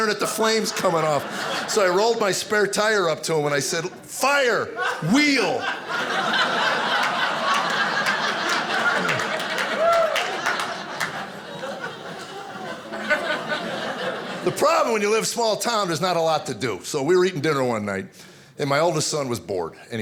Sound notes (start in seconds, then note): 6.4 audience laughing